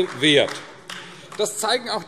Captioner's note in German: Beifall AfD